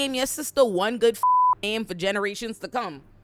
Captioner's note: beep